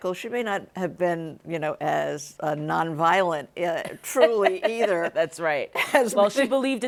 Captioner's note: laughs